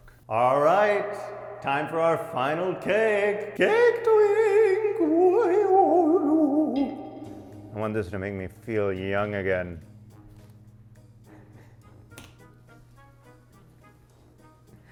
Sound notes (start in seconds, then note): 5.3 makes ghost noises; 10.6 light bouncy music